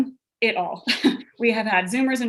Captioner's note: laughs